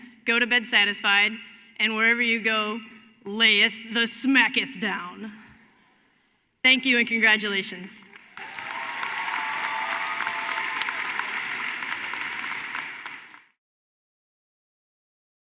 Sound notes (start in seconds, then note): 8.0 applause